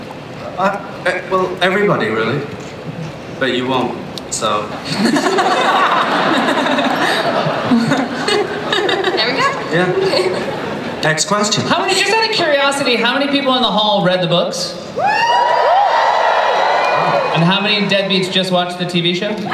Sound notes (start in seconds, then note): 4.8 laughter; 14.9 cheering